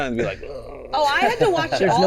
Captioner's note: gurgling